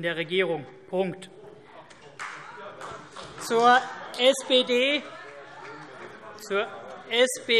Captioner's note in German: Beifall CDU und BÜNDNIS 90/DIE GRÜNEN - Zurufe CDU: Oh!